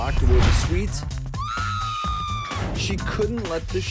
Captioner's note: screaming